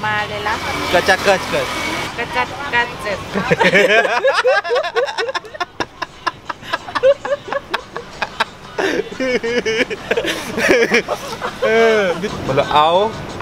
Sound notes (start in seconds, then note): 3.3 laughing